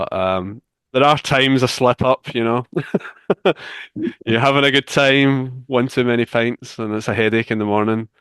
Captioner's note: laughs